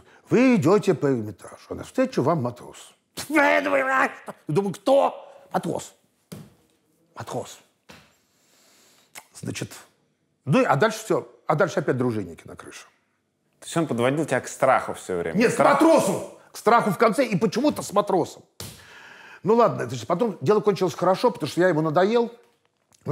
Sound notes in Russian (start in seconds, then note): 3.2 громко негодует